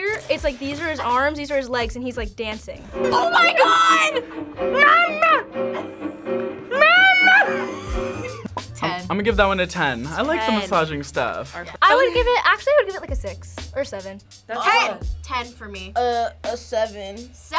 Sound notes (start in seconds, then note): 4.9 tense music; 6.7 laughs